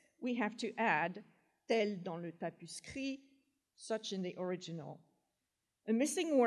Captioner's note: french